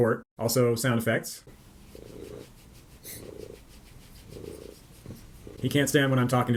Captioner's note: loud purring